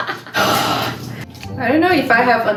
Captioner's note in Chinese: 叹气